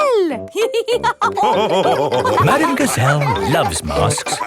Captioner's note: all laughing